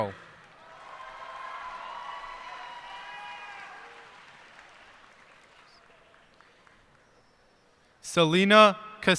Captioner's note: cheers and applause